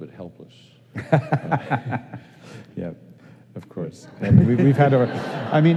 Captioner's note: laughing